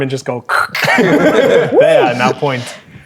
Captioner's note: players laughing